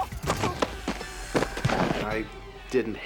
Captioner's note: thudding